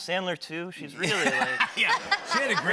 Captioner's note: laughs